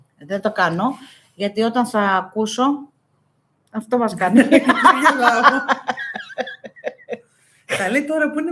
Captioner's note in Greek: γέλια